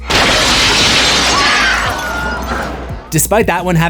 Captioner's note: screams